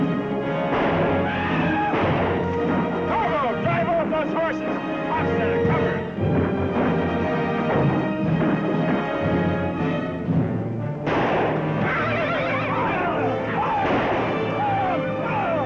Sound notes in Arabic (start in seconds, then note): 11.0 طلقة نارية